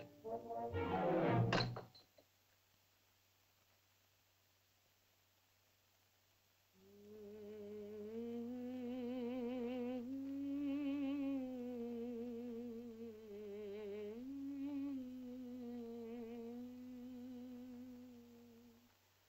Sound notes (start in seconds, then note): 1.5 spear clatters; 6.8 Loana hums